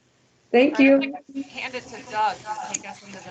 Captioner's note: audio static